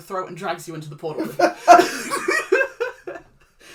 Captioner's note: laughs